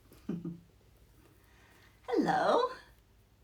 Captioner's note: chuckles